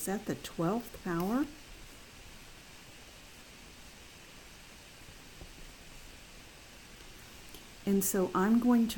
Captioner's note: long pause